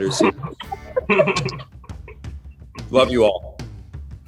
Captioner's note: laughing